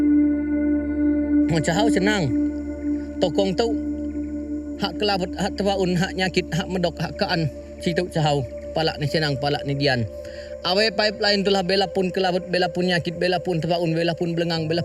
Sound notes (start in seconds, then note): 1.9 speaking in foreign language